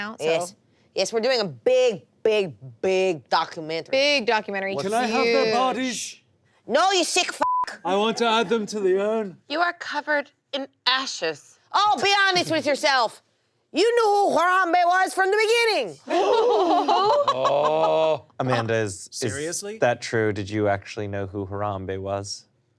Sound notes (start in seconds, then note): 7.4 beep; 16.0 laughter